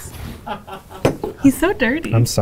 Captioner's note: noisemaker blowing; laughing